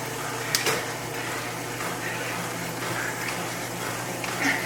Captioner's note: trainer whirring